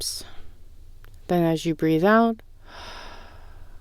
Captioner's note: exhale